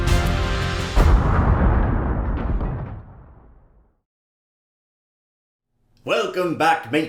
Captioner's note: explosion